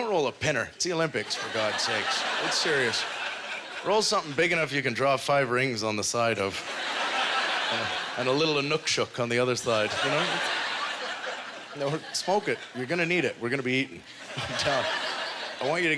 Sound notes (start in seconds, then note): 9.6 audience laughter